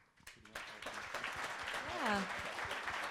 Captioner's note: crowd applauds